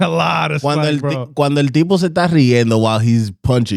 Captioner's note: speaking In Foreign Language